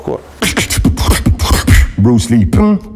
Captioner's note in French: beatbox